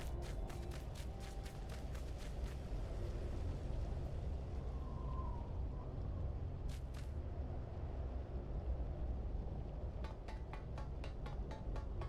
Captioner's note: footsteps